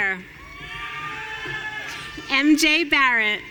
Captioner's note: audience cheering